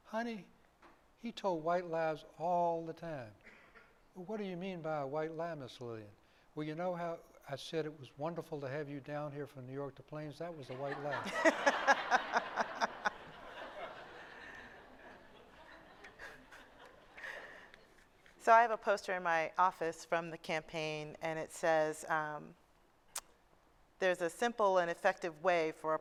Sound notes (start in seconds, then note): 10.6 laughter